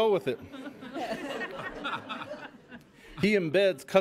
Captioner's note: laughing